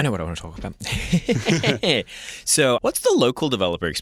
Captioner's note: chuckling